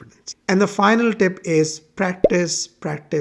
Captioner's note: bubble popping